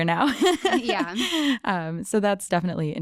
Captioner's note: laughing